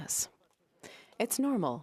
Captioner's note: speaking French